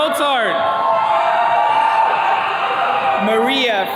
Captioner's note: attendees cheering